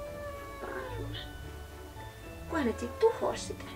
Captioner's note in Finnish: miau